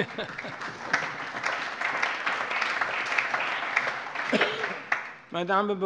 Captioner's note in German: Allgemeiner Beifall